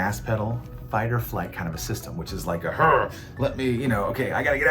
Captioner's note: grunts